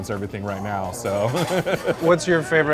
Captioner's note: laughs